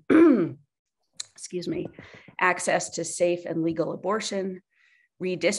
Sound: clears throat excuse me

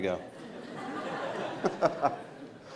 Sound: laughing

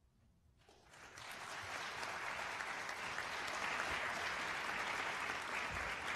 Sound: applause

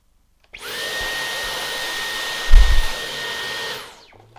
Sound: vacuum whirring

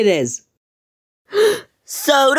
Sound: le gasp

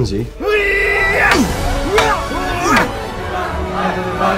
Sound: yelling

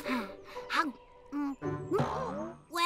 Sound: chomping

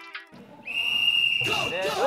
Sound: whistle blows

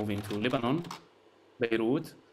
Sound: slide projector clicks

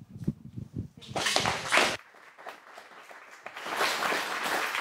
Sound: audience applauding

